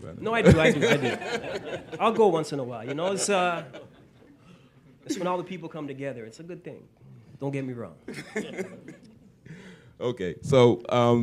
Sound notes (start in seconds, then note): 2.7 laughter; 9.6 laughter